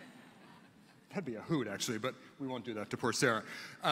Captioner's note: laughter